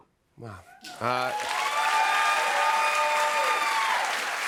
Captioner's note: cheers and applause